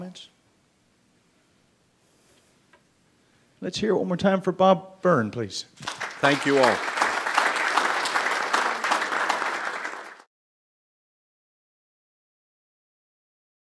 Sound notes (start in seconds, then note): 5.8 applause